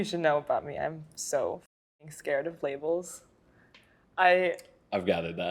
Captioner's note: silence